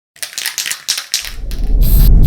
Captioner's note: spray can rattling; spray can whooshing